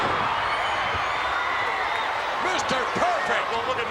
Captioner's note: applause